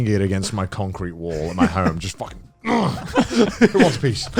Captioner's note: men laugh; grunts